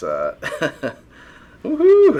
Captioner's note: laughing